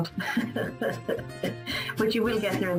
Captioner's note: laughs